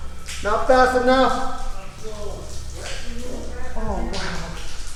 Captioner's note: water trickling